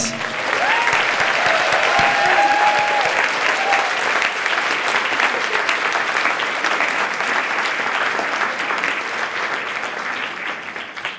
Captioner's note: applause